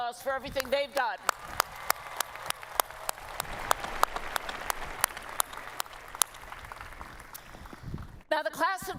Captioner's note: applause